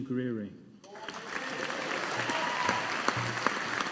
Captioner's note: audience applauding